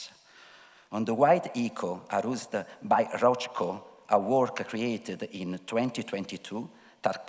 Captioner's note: speaking foreign language